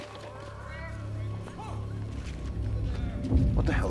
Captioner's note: eerie music continues; people shouting